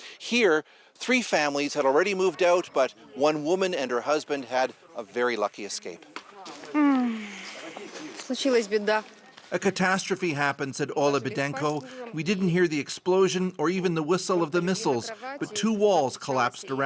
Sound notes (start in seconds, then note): 7.8 speaking alternate language